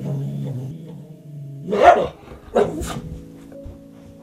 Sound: dog growls/barks

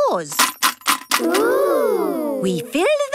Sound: coins jangling

